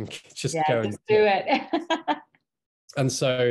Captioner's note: laughing